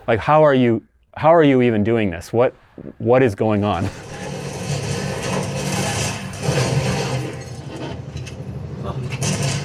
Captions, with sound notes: Like, "How are you even doing this? What is going on?" (muffled gunfire)